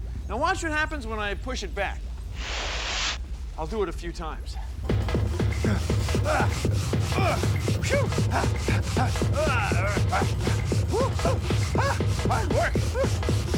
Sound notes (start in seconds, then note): 5.6 rapid drumbeat; 8.8 panting, grunting